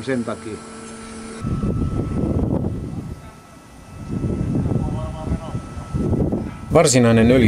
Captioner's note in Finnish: tuulen ääniä